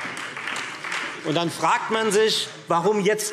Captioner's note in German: Beifall Freie Demokraten